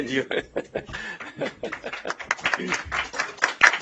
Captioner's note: laughter; applause